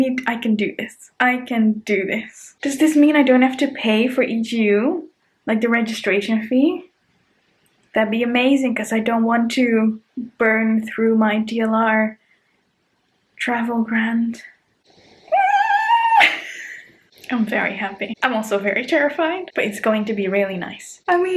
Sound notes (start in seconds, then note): 15.2 screaming; 15.3 chuckling